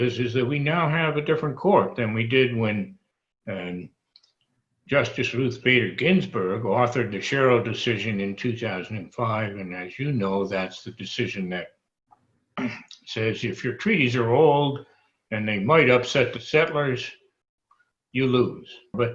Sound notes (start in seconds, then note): 12.6 clears throat